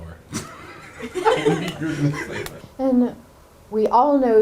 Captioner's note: both laughing